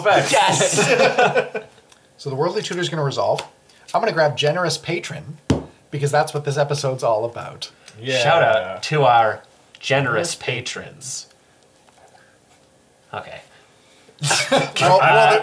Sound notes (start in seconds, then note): 12.2 all laugh